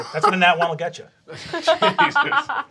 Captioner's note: laughing